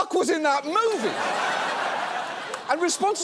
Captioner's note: audience laughs